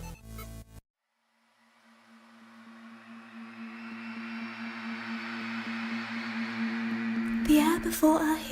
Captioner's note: magical humming. Screams fade in